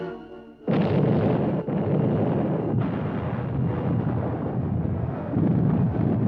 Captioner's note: explosions